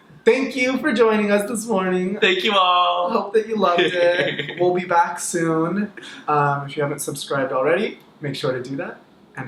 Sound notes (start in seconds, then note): 3.7 laughs